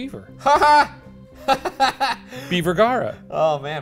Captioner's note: laughing